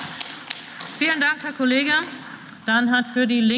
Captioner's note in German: Beifall